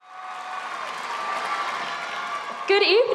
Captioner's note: crowd applauding